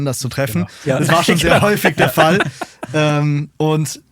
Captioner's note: lacht